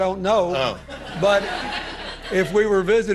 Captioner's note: audience laughter